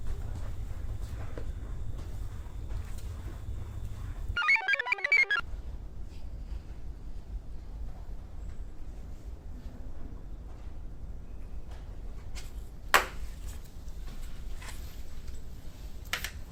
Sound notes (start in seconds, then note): 4.4 computer chirps